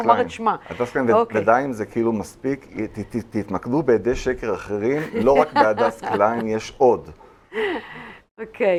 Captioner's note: laughter